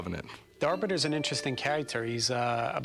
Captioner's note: none